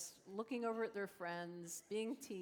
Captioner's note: laughter